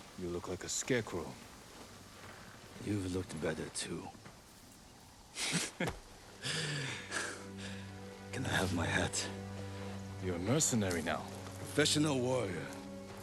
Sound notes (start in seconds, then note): 5.3 laughs